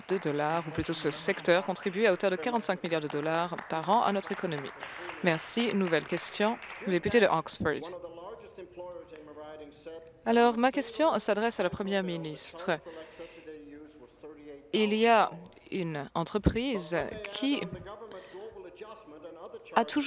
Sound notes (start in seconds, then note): 7.8 applause